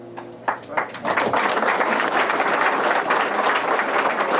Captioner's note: applause